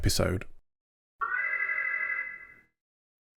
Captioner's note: alarm